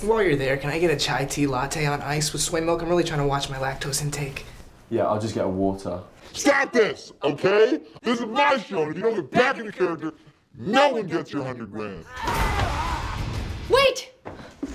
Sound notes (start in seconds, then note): none